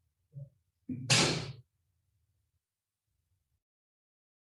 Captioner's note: door slamming